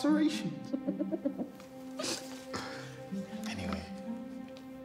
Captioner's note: laughing